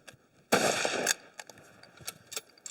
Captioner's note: gun shot